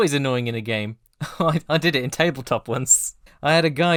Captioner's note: laughing